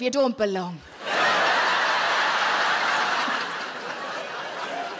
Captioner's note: audience laughing